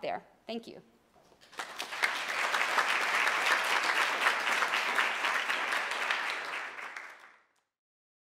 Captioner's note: applause